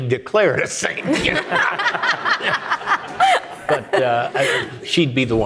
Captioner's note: audience laughing